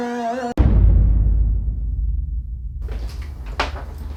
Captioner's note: dramatic boom